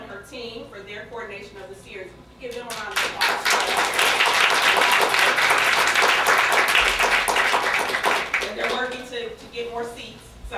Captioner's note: applause